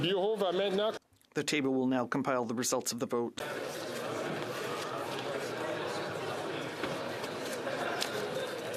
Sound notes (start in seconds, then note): 4.7 speaking French